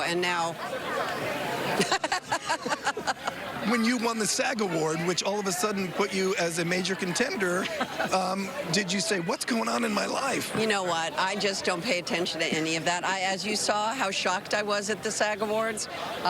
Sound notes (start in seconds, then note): 1.6 laughter